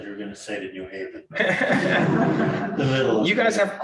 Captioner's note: audience laughing